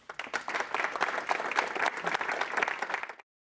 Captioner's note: applause